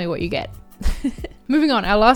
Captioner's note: laughs